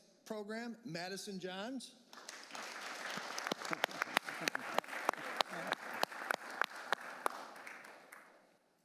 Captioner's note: applause